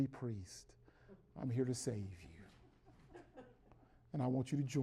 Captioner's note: chuckles in the background